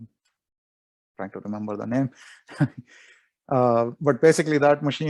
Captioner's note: chuckles